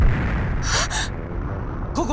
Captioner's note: gasp